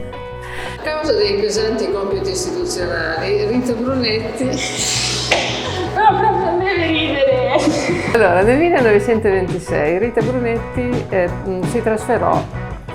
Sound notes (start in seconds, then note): 4.4 bursts out laughing; 7.5 laughs herself